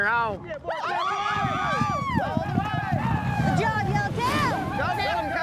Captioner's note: cowboys shout encouragement